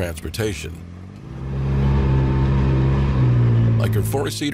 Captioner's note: engine roaring